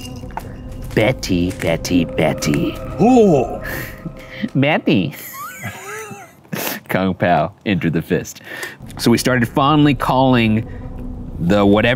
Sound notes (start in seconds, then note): 5.1 laughs